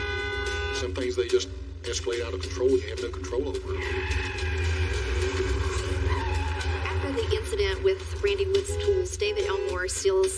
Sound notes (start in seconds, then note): 5.9 honking horn; 5.9 screeching